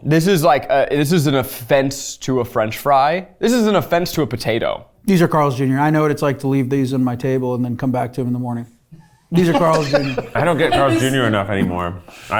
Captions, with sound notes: - This is like a, this is an offense to a french fry. This is an offense to a potato. - These are Carl's Jr., I know what it's like to leave these on my table and then come back to 'em in the morning. These are Carl's Jr. (someone laughing) - I don't get Carl's Jr, enough anymore.